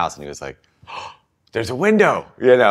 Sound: gasp

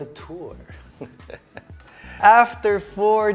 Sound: giggles

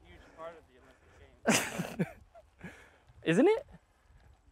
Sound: laughs

